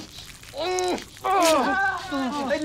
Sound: muffled cries

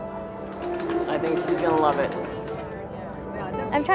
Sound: typewriter clacking

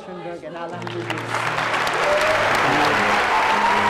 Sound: applause

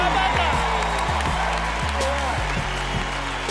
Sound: cheers and applause; upbeat music

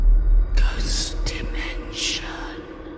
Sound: eerie music; ghostly Voice

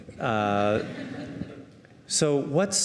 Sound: audience laughing

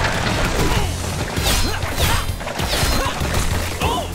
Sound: grunting; groaning

